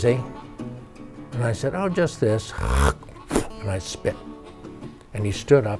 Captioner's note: mimics spitting